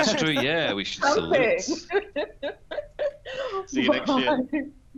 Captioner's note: laughs